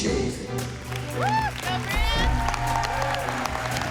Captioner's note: applause